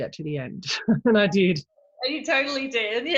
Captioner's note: laugh